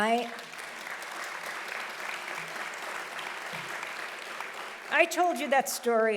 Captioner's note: audience applauding loudly